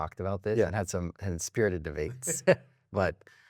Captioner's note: laughs